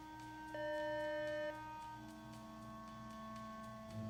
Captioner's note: doorbell rings